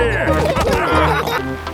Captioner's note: all laughing